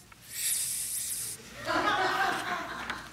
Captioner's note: inhales; laughter